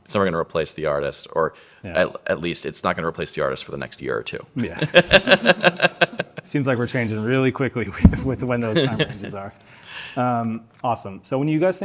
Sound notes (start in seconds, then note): 6.2 laughs